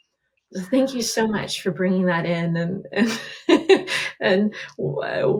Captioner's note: laughs